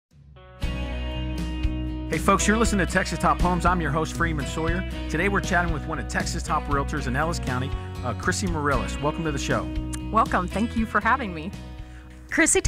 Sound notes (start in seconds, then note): 0.8 light guitar music; 2.2 voiceover